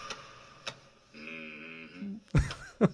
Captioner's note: thumping; laughs